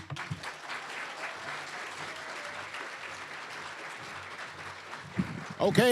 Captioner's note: applause